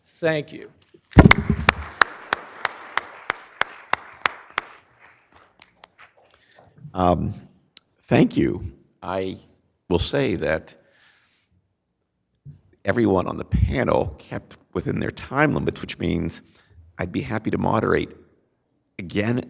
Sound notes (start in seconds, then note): 1.2 applause